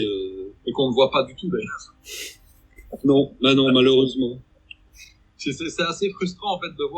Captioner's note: laughs